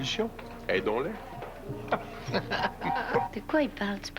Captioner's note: Rires